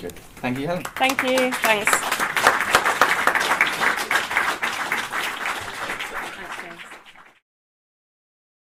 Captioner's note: applause